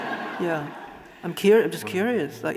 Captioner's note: audience laughing